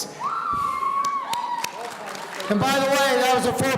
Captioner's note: audience cheering